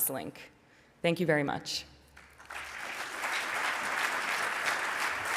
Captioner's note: audience applauds